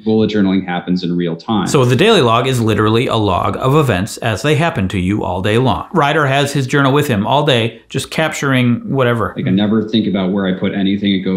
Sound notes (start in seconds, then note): none